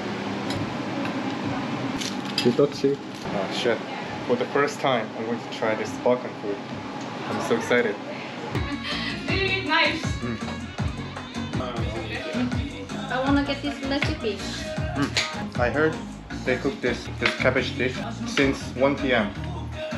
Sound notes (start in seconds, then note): 10.2 omnomnom